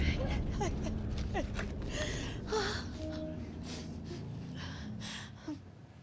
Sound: sobbing

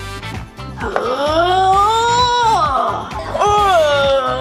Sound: grunts

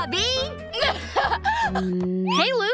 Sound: laughing

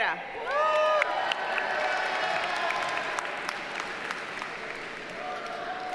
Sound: audience cheers and applauds

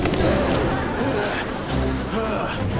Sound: grunting

